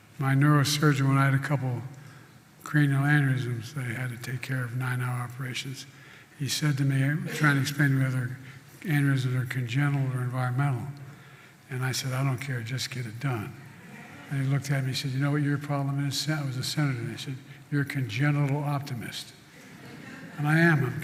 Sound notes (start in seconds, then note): 13.8 laughter; 19.5 laughter